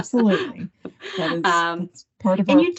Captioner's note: laugher